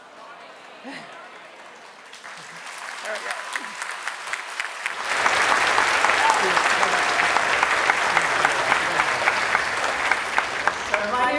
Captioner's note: applause